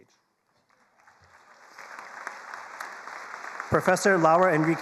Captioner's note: attendees applauding